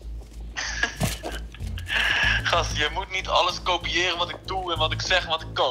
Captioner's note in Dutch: bruno lacht